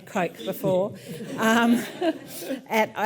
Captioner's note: audience laughs lightly